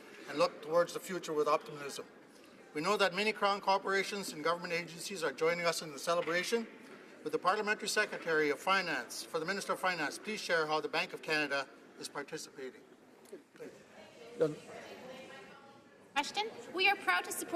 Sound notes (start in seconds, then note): none